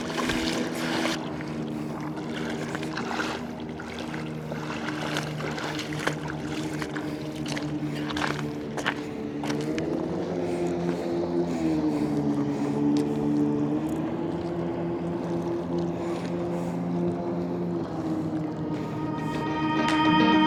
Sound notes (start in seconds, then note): 5.8 water splashing; 8.7 upbeat music